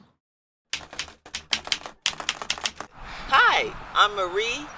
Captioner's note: keyboard keys clicking